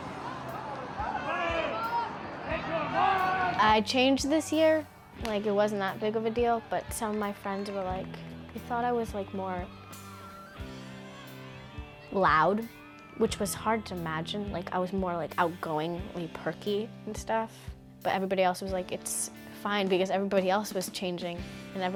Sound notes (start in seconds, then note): 0.0 people shouting